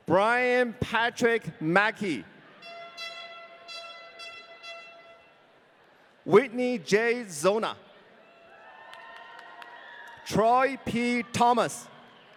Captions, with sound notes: Brian Patrick Macke. (horn blaring) Whitney J. Zolna. (audience cheering) Troy P. Thomas.